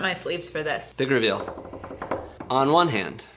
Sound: tapping

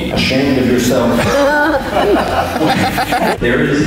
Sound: crowd laughs

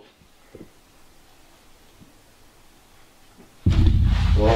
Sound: footsteps

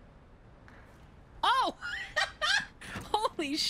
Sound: laugh

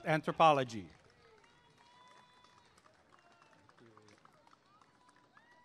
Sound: applause and cheering

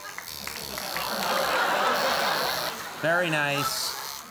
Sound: audience laughs

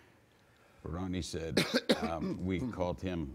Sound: man coughing

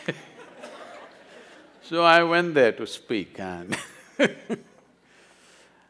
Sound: laughs; laughs

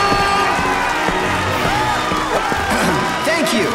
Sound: audience cheering

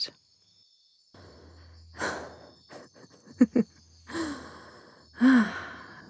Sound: Shiloh exhales, letting out a sigh before laughing in disbelief and joy

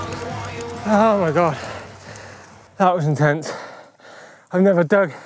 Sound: breaths deeply

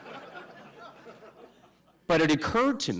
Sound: laughter

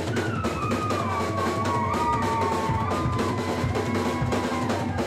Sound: drum solo; audience cheering

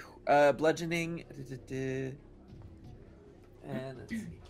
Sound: humming

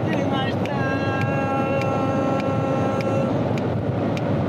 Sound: singing; snaps fingers

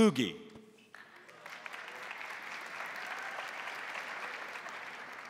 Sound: crowd applauding

